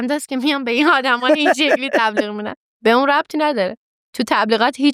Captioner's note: laughs